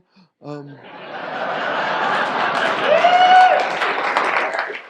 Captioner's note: audience laughs